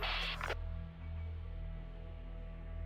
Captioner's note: radio bleep